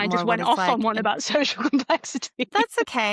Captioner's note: laughs